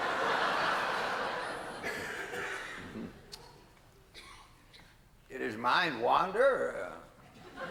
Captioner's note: laughter